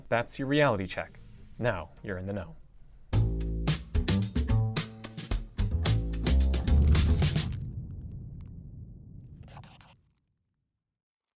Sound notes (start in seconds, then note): 9.4 scribbling